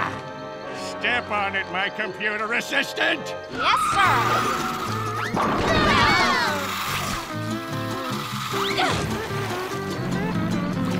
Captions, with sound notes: Step on it, my computer assistant. Yes, sir. [shouting]